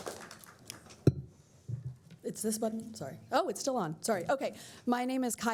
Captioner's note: applause